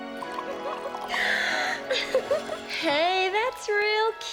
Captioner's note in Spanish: jadea y se ríe